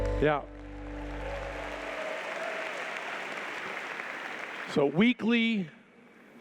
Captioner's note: applause